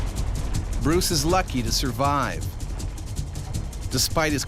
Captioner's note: voiceover